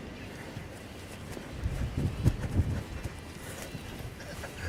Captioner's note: wind blowing